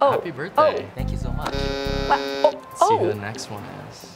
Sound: button buzzing

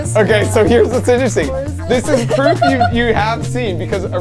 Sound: laughing

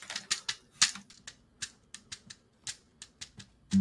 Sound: soft tapping

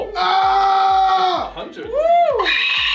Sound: screaming; hoarse screaming

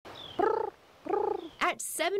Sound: imitating bird calls

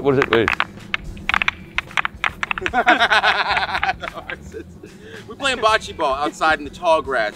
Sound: laugh

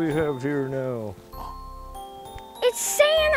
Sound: gasps

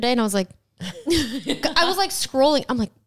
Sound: laughs

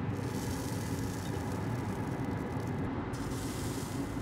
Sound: bacon sizzles

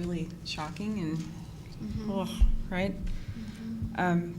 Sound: groaning

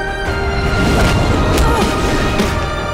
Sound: groaning

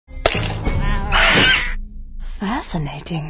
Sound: Jenny Silverback makes angry gorilla noises

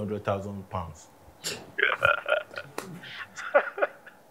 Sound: Prof laughs

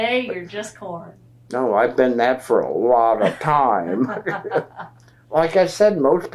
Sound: laughter

